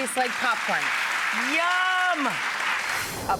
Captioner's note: audience applauds